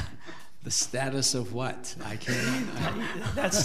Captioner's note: board laughing